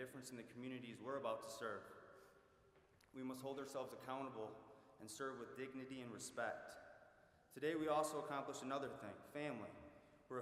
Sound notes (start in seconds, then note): none